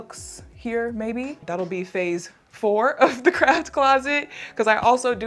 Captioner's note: laughs